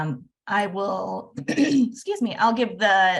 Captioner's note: clears throat